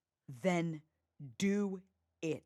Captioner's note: none